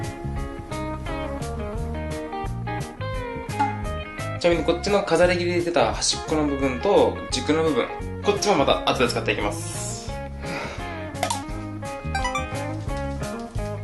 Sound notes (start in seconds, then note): 10.4 sigh